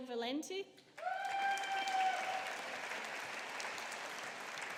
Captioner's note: audience applauding